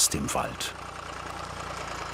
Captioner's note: motor rattling